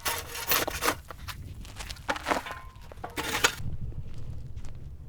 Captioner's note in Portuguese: sons da pá na terra